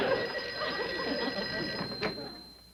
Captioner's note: phone ringing